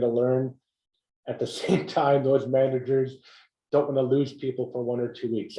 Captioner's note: laugh